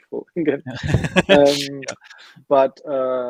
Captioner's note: laughing